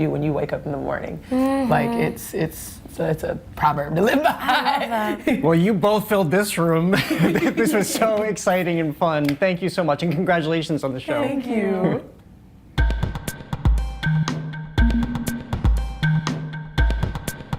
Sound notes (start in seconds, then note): 4.2 laughs; 6.9 laughter